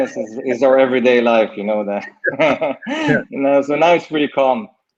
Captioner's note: laughs